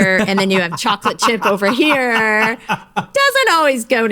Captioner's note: laughs out loud